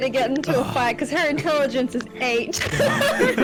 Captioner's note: laughs; all laugh